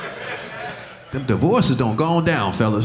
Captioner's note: audience laughing